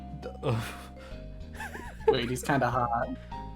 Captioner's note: soft upbeat music; chuckles